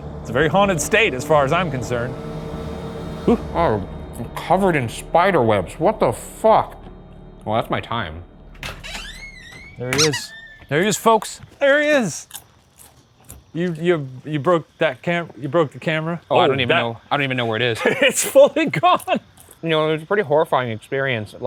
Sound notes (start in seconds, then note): 8.4 door creaking; 12.0 popcorn crunching